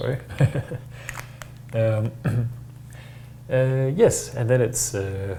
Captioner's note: softly chuckles